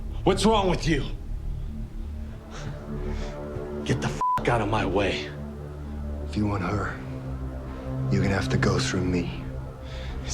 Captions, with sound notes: What's wrong with you? Get the (beep) out of my way. - If you want her, you gonna have to go through me.